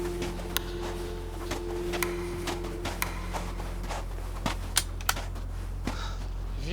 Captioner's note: soft music; footsteps thudding